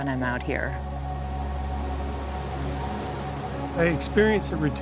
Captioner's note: water rushing